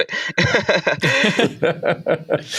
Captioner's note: laughter